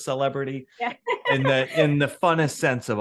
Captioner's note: laughs